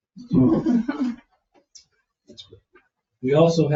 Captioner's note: people chuckle